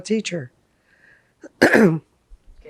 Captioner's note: clears throat